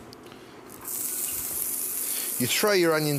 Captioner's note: pan sizzles